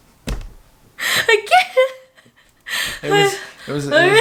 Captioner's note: laughing